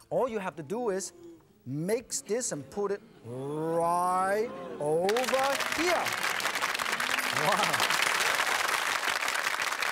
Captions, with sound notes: All you have to do is, mix this and put it right over here. (clapping)